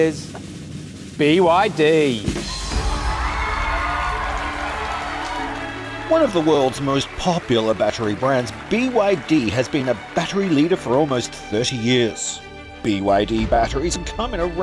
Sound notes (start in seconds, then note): 2.6 audience applauding and cheering